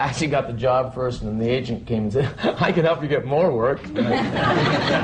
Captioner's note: laughter